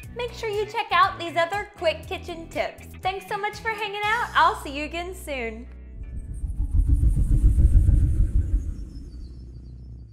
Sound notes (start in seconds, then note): 6.0 graphic whooshes